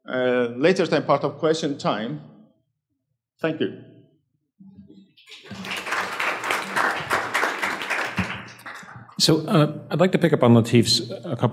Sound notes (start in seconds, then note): 5.2 audience applauds